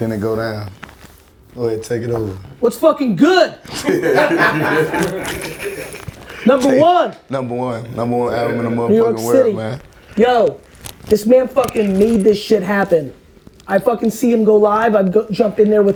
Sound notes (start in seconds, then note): 3.6 laughing